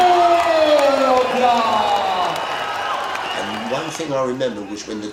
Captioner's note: crowd cheers